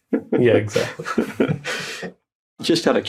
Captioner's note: chuckles